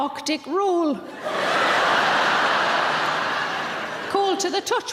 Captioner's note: audience laughing